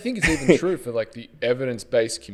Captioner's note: laughs